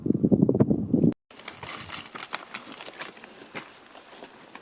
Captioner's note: rocks falling